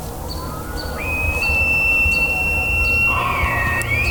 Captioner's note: elk bugling